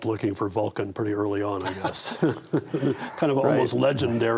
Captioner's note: all laugh